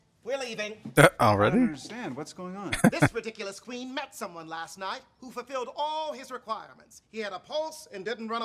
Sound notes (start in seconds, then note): 2.7 chuckling